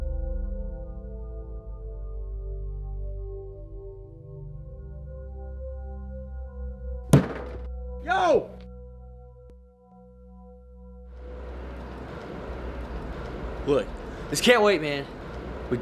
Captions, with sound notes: (banging on window) - Yo! (traffic whirring) - What? - This can't wait, man.